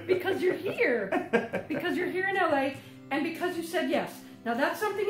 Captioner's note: laughs